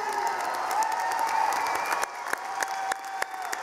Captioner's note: cheering